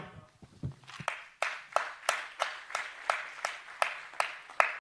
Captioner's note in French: Applaudissements